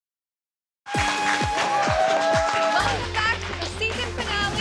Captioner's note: cheering